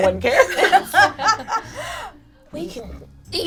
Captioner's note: laughs